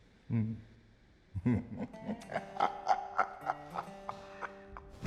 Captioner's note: chuckling